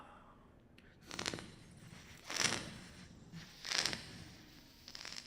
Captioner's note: beatboxing